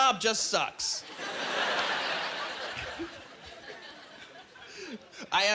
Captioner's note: laughing